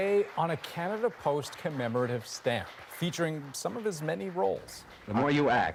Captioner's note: applause